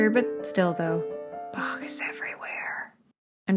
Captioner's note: whispered